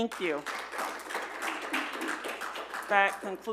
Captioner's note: audience applauding